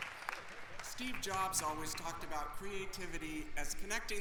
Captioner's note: applause